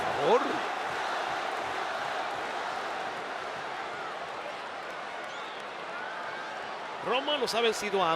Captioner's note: applause